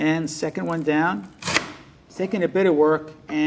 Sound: onion slicing

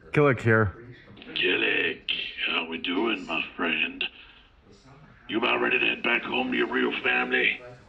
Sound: over comms

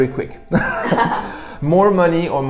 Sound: laughs

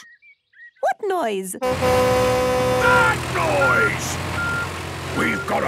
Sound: tractor noise; screaming

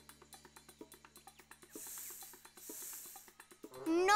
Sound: hissing

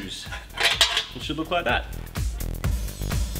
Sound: metallic clattering

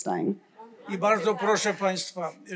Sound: foreign language

